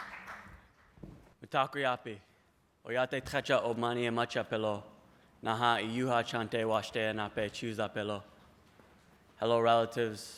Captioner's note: applause; non-english speech